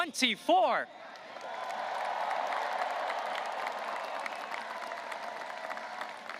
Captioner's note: audience cheering and applauding